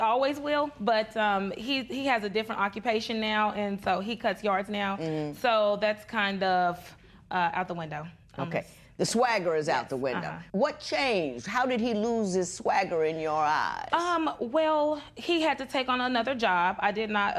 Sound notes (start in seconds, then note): none